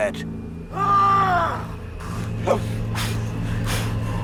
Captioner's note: fighter yelling; dramatic music